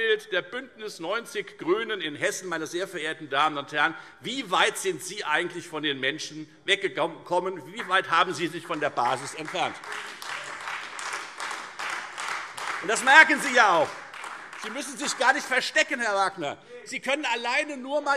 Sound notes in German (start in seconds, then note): 9.7 Beifall Freie Demokraten, AfD und vereinzelt SPD